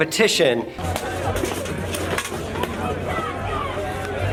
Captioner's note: armor clanking